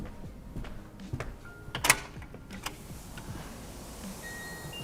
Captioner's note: lock clicking; bell chiming